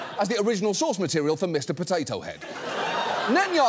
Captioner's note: audience laughs